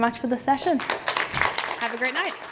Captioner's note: applause